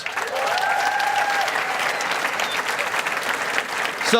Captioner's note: cheering and applause